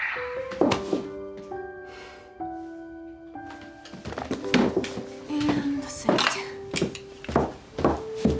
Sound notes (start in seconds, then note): 0.7 dropping hands, sighs heavily